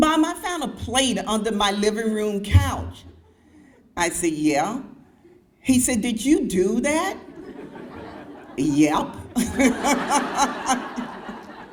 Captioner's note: crowd laughs